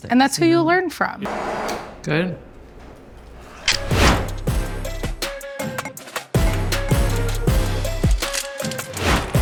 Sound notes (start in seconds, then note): 1.2 blender whirring; 3.9 upbeat music